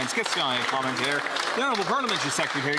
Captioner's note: applause